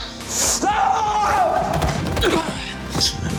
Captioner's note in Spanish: Grito